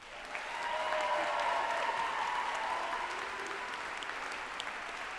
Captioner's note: group applauding and cheering